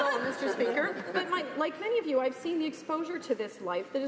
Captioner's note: laughter